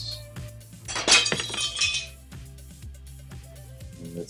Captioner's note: glass breaking